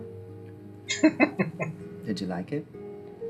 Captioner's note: chuckling